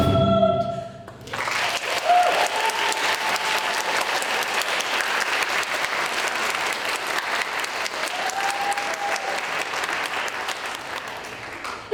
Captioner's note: applause